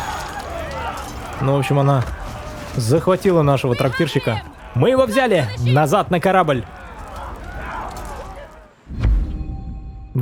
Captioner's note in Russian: крик